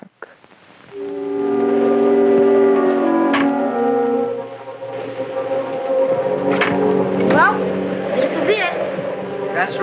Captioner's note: soundbite of archived recording